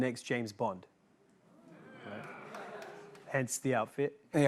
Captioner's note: audience "Oohs"